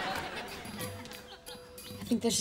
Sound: chirping

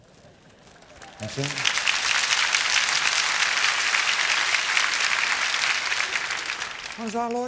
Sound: audience applause

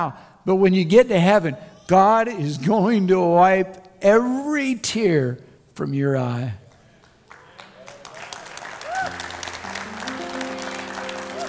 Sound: crowd Cheers

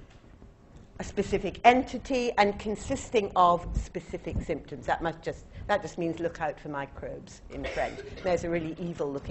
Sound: French

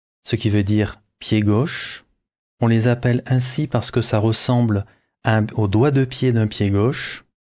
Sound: french

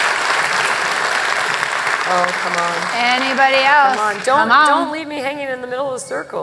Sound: applause

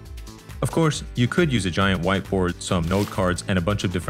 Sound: paper crumples

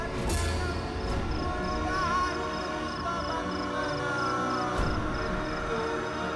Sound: chant

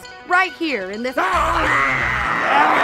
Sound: zombie yells; reporter screams

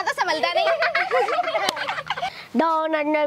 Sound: laughing

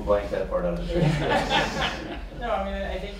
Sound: laughs

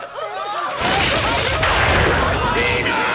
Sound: thundering

